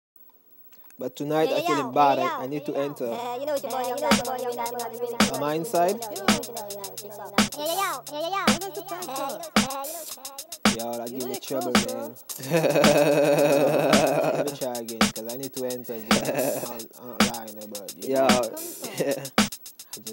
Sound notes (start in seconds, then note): 12.3 chuckle